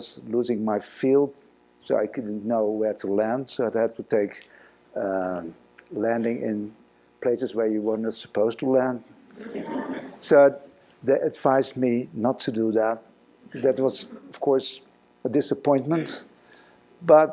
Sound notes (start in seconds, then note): 9.3 laughing